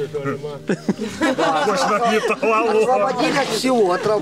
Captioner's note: laughing